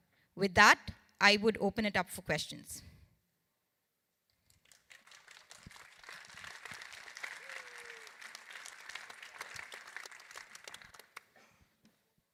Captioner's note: applause